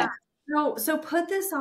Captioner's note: laughing